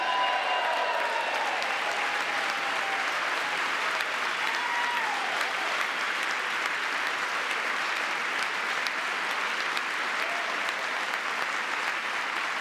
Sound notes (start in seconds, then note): 6.9 cheering; 9.6 applause